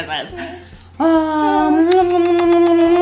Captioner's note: whining and crying; kissing sounds